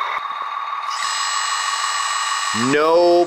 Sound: lift raising

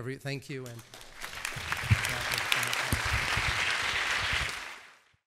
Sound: applause

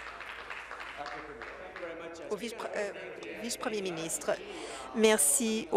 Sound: applause

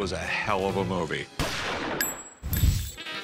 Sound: gunshot

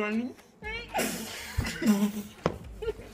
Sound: laughing

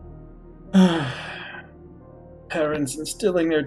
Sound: sighs

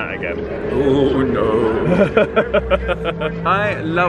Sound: laughing

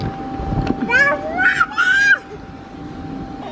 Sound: screaming

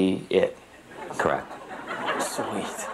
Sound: audience laughs

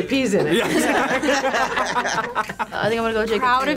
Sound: group laughs

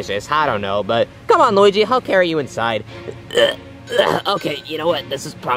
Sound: grunting

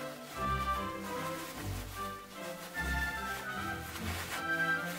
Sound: fabric rustling

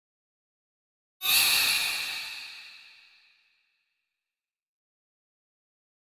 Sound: eerie scream

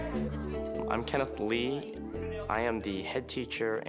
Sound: students chatting

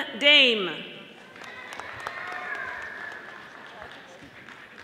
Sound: audience applauding

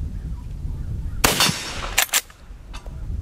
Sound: gun fires

